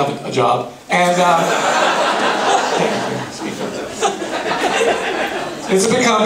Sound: laughing

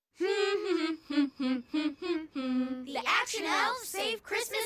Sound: continue humming

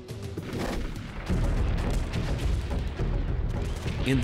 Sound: explosions

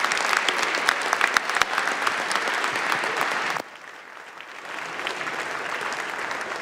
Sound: applause

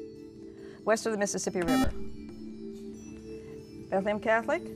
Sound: buzzer

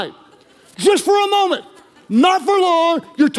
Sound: congregation laughing

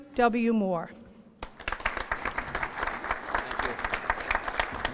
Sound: applause

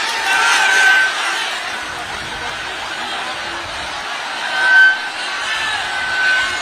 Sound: applause

